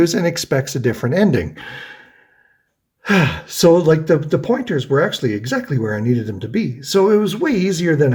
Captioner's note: sighs